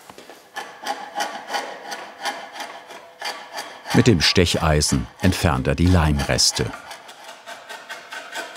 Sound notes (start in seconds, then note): 0.5 scraping noises